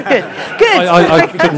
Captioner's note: laughter